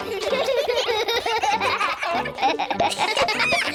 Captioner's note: all giggle